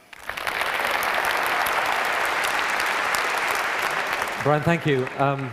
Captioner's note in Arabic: تصفيق